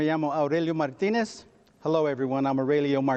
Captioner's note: speaks in foreign language